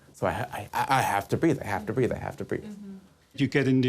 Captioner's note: stammering